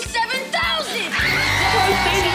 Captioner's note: screaming